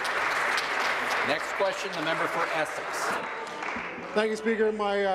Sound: applause

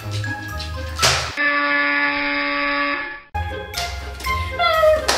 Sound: buzzer noise

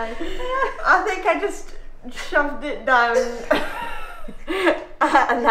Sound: laughs

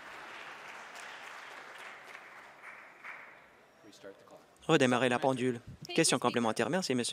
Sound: applause

